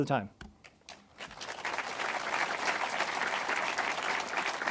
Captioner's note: audience applauds